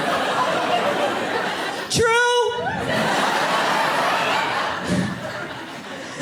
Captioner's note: audience laughing